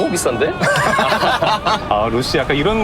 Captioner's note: hahahaha